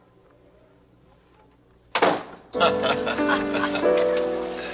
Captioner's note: door closing; jazzy music